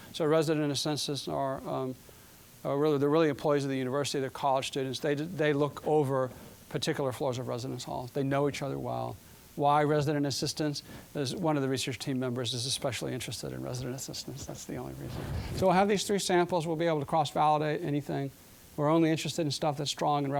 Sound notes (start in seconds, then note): none